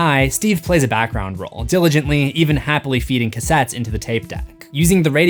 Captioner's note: happily